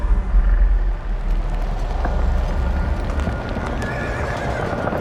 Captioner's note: ominous screeching rings